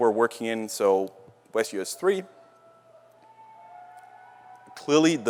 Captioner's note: cheers